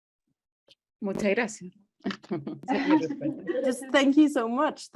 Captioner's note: speaks foreign language